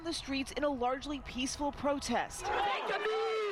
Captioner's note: crowd chanting